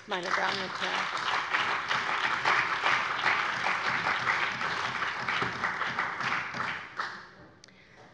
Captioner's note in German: Beifall bei der CDU und dem BÜNDNIS 90/DIE GRÜNEN